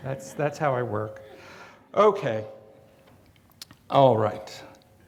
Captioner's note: audience laughs